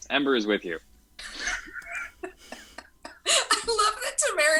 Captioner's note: cast laughs